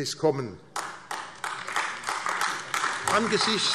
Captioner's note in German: Beifall AfD